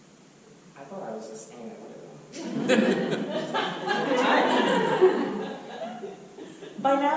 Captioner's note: audience laughter